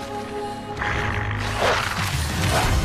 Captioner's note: grunts